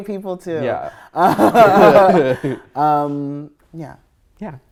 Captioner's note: laughing